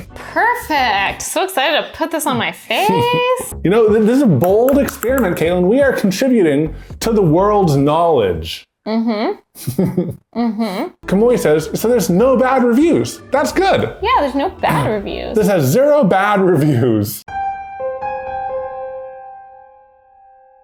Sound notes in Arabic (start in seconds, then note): 9.5 ضحكة مكتومة